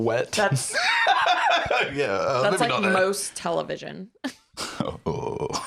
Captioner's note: laughs